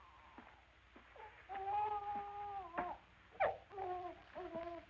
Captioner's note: baby wailing